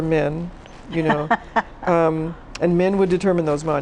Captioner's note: laughs